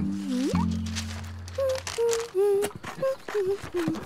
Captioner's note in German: Papierrascheln